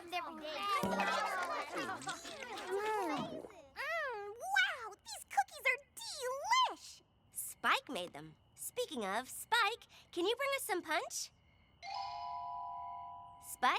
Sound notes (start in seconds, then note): 0.2 whip!; 4.0 gulp!; 12.1 poink!